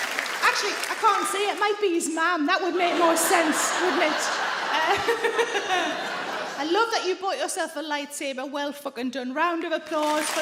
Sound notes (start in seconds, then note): 2.7 laughs